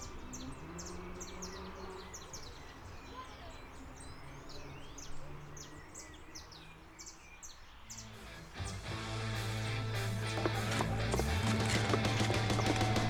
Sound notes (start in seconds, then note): 2.4 nature background sounds; 8.1 rock Music